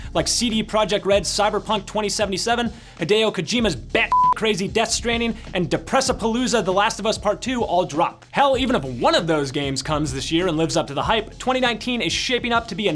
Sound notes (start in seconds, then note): 4.1 beep